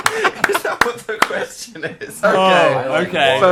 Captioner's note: laughs